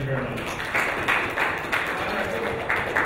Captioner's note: audience applauding